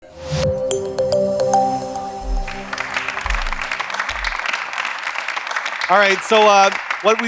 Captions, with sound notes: (audience talking indistinctly) (audience applauding) - All right, so what we